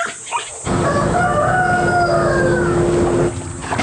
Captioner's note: cock-a-doodle-doo!